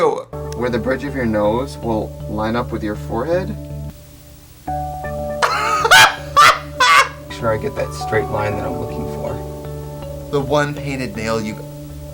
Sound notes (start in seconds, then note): 5.4 laughing